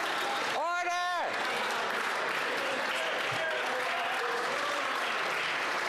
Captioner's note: applause